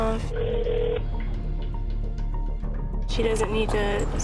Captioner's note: phone ringing